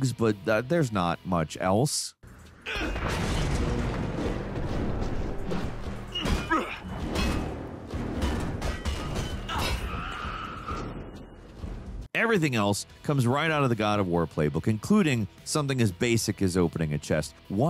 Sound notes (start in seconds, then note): 2.8 Conan grunting; 2.8 swords clanging